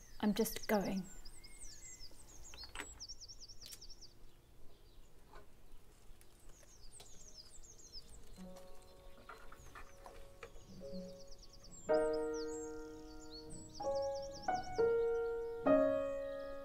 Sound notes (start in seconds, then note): 4.4 birdsong